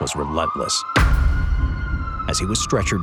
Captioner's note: siren blaring